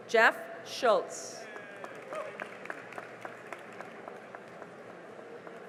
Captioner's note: cheering and applause